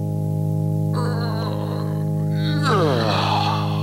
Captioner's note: whines